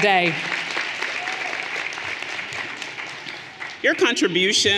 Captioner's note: audience applauding